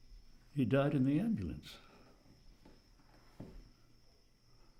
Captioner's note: none